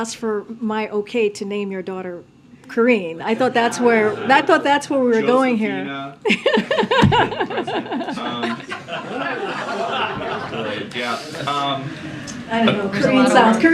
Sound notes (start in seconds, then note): 6.2 laughter